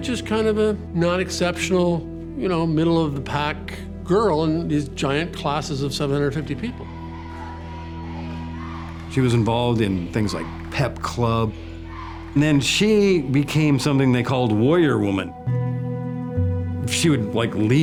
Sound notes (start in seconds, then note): 6.5 cheerleaders cheering